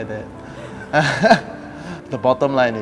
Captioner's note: laughter